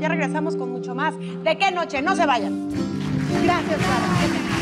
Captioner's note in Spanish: Aplausos